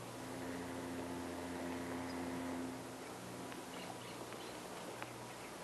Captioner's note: ship horn in the distance